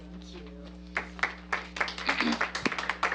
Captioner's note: applause